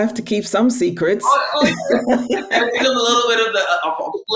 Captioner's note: laughing